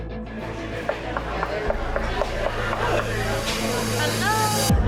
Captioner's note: dramatic instrumental music; knocking on wall